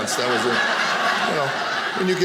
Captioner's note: audience laughing